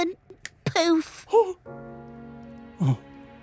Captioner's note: Sherblock gasps